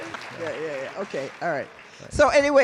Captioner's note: applause